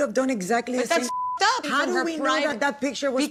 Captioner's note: beep